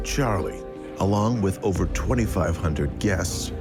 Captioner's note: people chatting